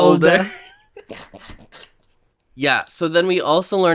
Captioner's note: laughs